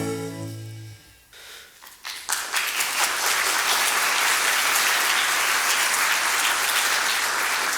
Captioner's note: music out. Applause